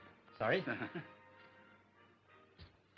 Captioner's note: little laugh